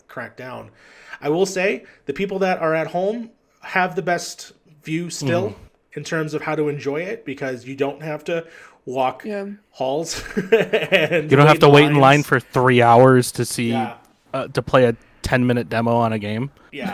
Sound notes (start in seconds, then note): 10.0 laughs